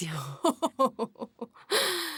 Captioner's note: Galina laughs